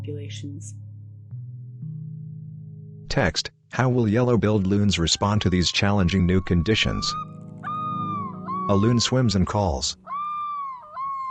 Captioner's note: birds crying